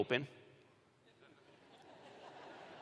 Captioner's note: laughter